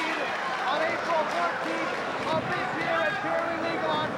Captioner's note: spectators applauding